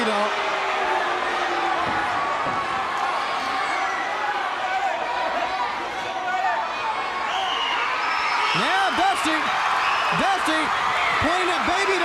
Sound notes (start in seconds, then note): 7.9 crowd cheering